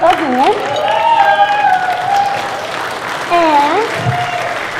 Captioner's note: cheers and applause